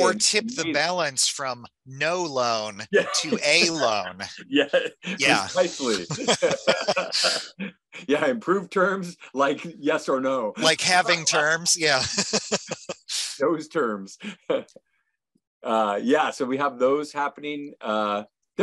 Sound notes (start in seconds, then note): 6.0 laughs; 10.6 laughs